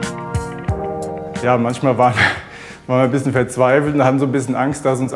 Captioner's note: laughs